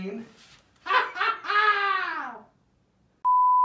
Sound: uproarious laughter

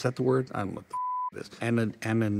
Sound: beep

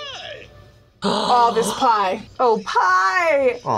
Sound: gasps

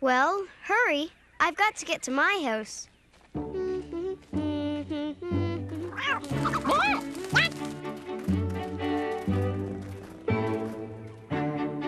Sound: humming

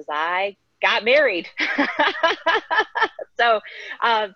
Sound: laughing

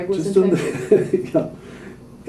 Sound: chuckles

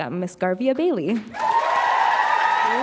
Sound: applause

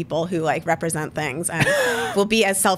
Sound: laughs

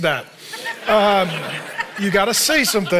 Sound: audience laughing

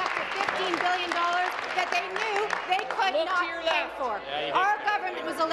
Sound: applause

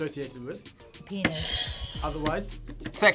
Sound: buzzer rings

